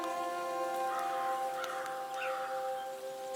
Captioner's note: crows cawing